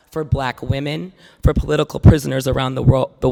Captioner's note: none